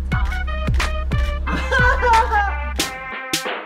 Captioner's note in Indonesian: Hahahahahaha